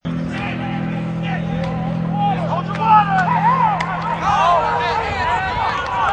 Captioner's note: players talking, shouting